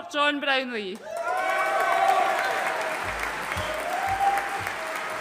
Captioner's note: audience cheering and applauding